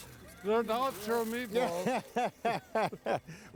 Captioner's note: laughing